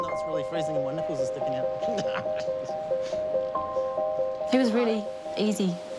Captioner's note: laughs